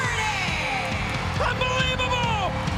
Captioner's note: audience cheering and clapping